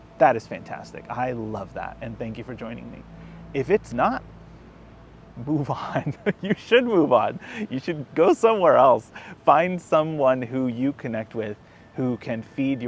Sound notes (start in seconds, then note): 5.7 laughs